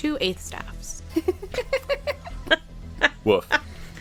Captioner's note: laughter